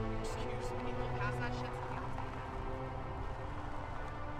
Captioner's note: solemn music continues; friends chattering; solemn music continues